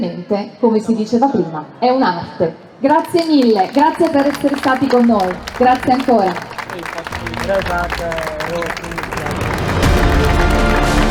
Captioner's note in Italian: Applauso